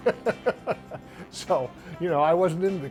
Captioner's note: laughs